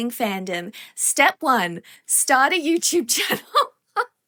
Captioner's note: bursts out laughing